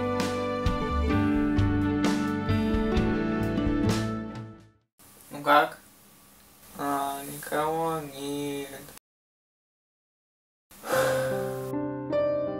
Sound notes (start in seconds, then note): 7.9 lower tone of voice; 10.8 sighs